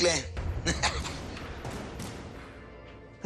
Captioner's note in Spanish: Risas